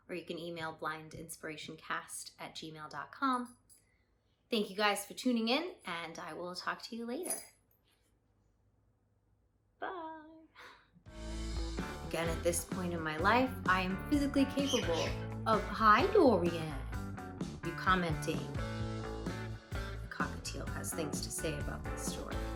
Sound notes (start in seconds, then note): 11.1 rock music plays; 14.6 sudden bird chirping